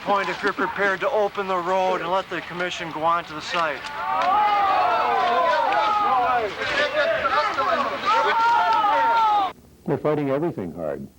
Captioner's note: multiple people yell, "NO"